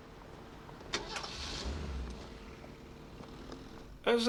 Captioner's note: engine starts